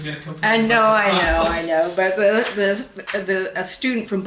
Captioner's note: laughs